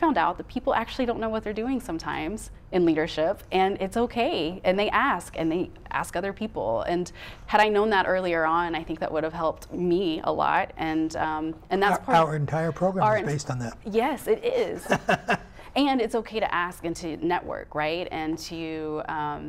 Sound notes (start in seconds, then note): 14.5 laughing